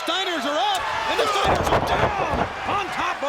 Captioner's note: people exclaim; bodies thud